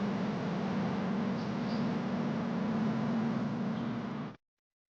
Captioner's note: birds chirping